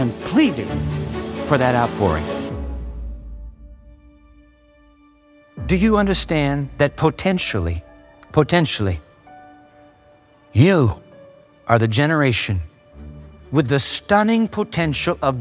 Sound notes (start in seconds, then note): none